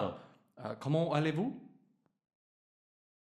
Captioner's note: foreign language